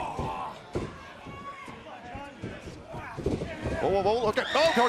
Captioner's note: crowd chatter